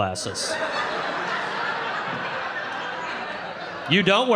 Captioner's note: audience laughing